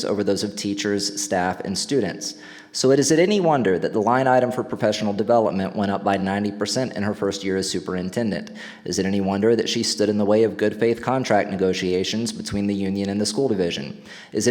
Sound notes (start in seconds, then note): none